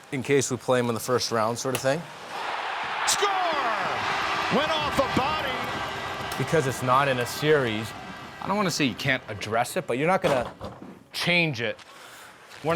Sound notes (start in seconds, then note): 2.6 crowd cheering